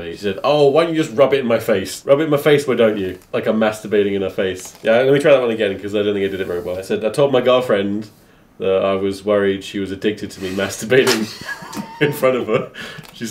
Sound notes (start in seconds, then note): 10.4 spitting water; 11.0 laughing